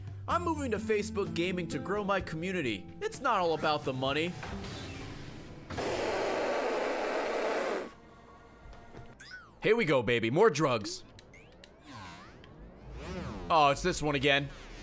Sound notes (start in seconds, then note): 5.7 raspberry noise